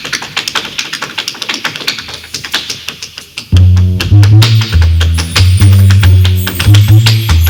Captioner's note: tapping